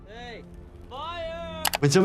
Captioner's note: graphics clicking